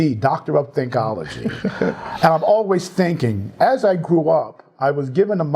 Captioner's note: laugh